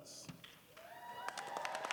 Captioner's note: applause